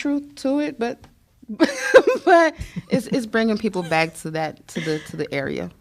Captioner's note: laughter